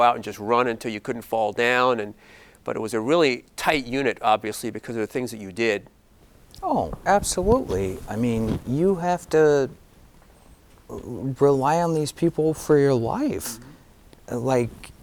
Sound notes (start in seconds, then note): none